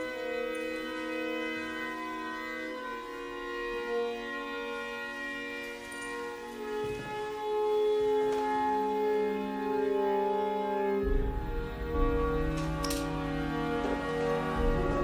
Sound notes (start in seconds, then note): none